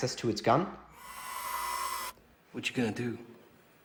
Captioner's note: mechanical whir